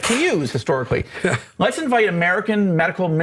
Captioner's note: laughs